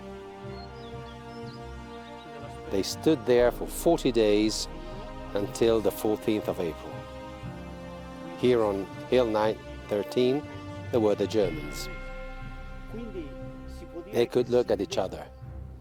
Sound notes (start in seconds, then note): 0.2 light instrumental music; 2.8 voiceover